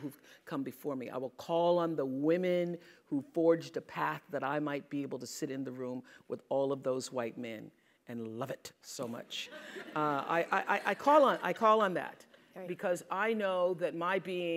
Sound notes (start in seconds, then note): 11.2 laugh